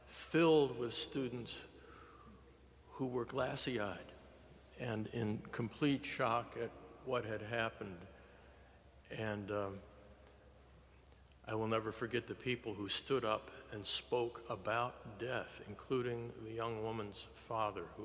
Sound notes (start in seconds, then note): none